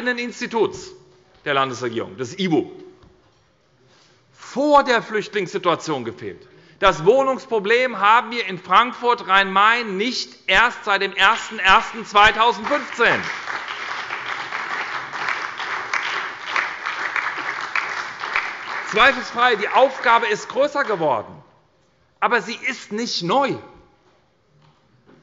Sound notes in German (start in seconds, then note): 12.2 Beifall bei der SPD